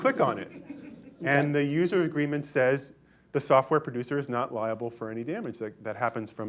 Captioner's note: laughter